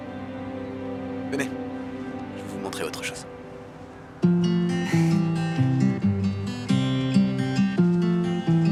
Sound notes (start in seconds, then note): 4.8 chuckles; 5.9 soft music